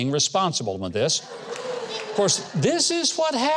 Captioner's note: audience laughs